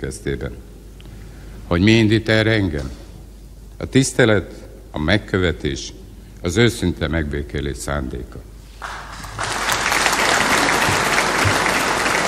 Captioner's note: loud applause